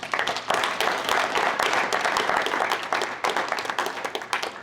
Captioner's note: applause